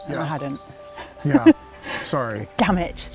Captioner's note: chuckles